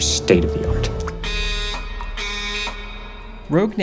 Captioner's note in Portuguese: sons de alarme